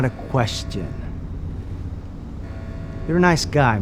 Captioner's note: alarm blaring